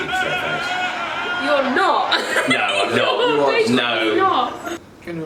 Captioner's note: laughs